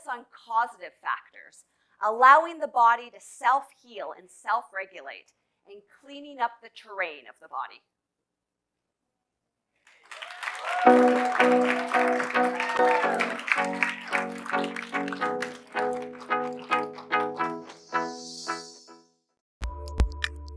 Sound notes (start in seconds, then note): 9.8 audience applauding; 14.2 upbeat music